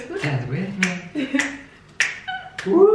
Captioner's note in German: laughs